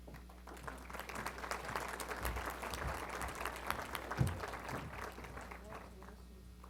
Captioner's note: applause